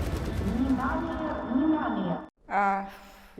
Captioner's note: dramatic music; announcer over loud speaker